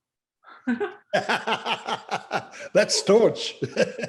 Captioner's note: laughter